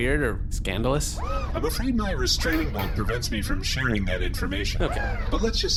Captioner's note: knocks on metal